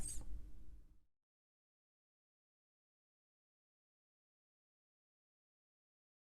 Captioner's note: silence